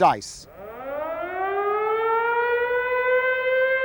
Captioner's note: alarm rings